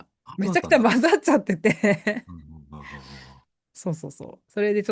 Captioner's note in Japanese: 笑い